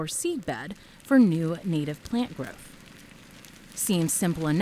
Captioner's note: flames crackling